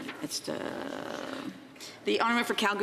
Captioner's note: speaking French